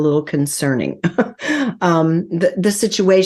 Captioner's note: laughs